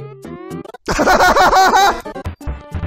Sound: laughs loudly

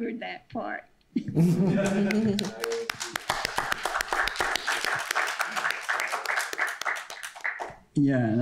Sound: applause

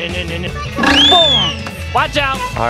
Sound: sings menacingly; whistle blows

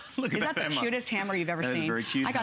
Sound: coughing

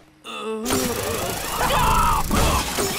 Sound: thudding

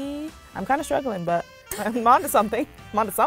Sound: giggles

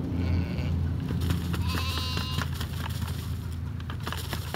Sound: feed rustling

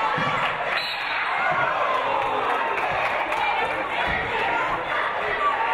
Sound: referee blows whistle

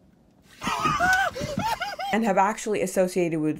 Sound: screaming

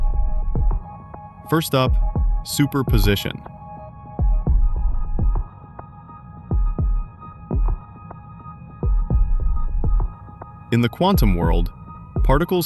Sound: thoughtful

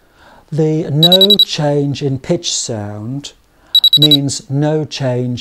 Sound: 3 noumic beeps

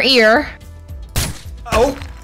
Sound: gunshot

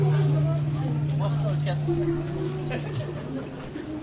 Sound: laughs

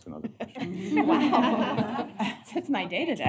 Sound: laughter

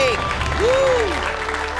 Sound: cheering

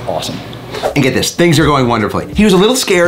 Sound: screen swooshes

